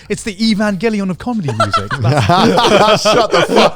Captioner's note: all laughing